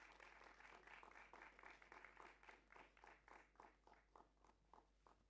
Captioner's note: clapping